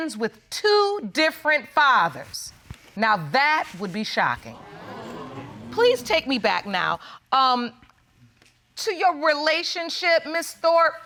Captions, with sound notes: with two different fathers. Now that would be shocking. -[audience exclaiming] -Please take me back now, um... to your relationship, Ms. Thorpe.